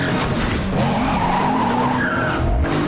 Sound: tires screeching

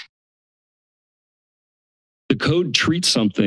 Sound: silence

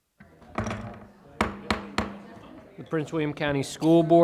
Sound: gavel thudding

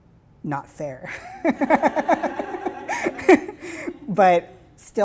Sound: laughing

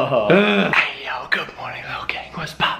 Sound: whispering

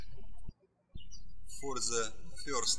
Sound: birds chirping

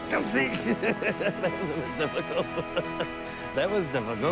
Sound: laughs

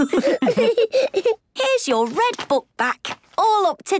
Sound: laughs

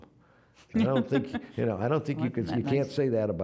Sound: laughing

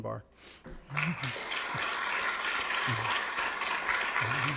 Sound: audience clapping

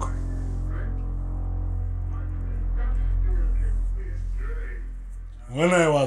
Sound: TV droning in the background

